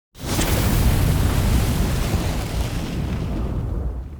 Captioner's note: fire explodes